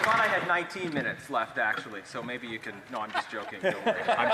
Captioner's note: applause